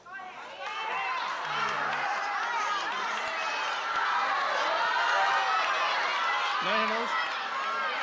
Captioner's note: crowd shouting